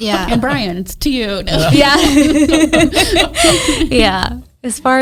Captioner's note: everyone laughs